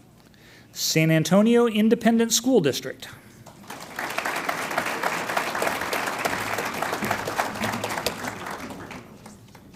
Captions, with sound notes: San Antonio Independent School District. (audience applauds)